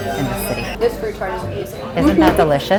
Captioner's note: mouth full